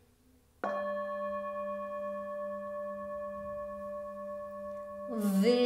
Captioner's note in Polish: gong